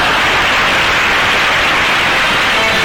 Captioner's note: audience applause; audience laughter; theme music